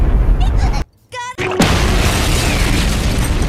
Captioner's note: explosion